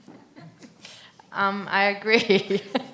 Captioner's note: laughs